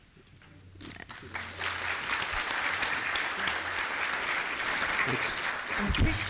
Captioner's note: applause